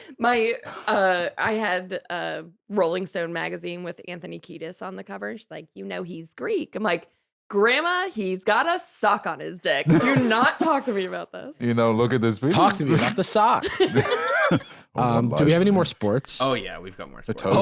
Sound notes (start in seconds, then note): 13.6 laughs